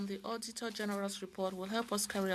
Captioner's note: speaking French